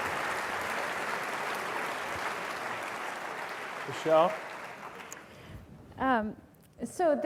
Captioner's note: applause